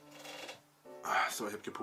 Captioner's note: farts